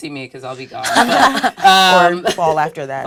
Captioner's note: laugh